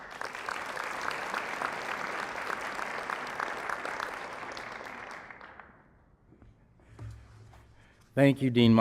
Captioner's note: applause